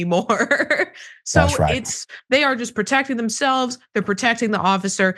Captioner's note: laugh